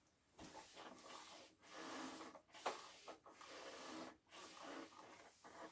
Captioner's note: ironing board creaking